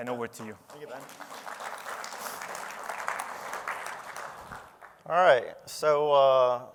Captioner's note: applause